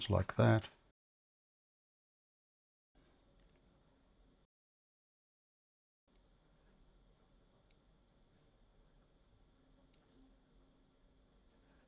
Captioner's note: silence